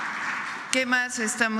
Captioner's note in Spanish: aplausos